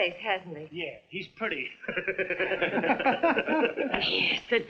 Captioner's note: laughing